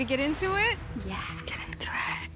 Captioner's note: whispers